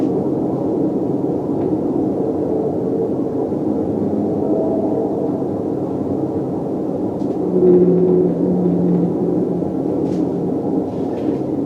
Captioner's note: beautiful High-Pitched Whale song